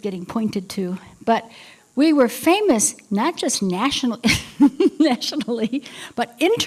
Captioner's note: laughter